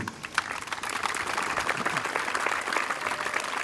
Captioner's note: applause